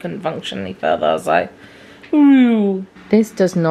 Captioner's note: imitates powering down